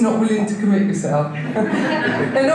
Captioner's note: audience laughter